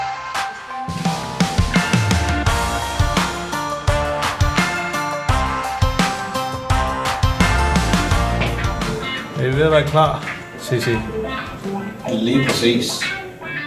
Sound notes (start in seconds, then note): 10.8 in danish